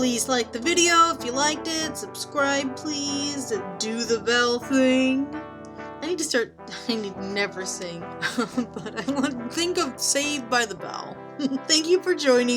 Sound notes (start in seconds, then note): 8.2 giggles; 8.2 laughs